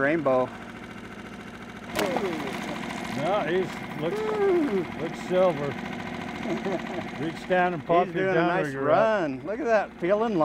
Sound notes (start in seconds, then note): 1.9 fish splashing; 7.9 chuckling